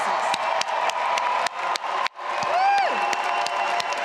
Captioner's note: audience applauding and cheering